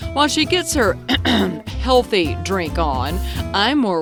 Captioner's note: clears throat